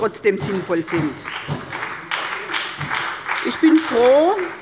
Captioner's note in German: Beifall bei der SPD